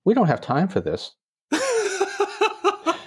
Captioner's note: laughter